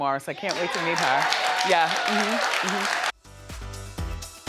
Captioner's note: audience applauding; upbeat music